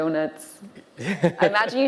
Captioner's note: interviewer laughing